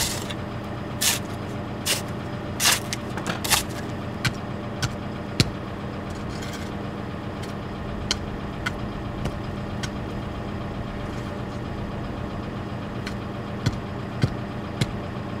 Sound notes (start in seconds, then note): 0.1 shovel scraping dirt; 4.8 shovel thuds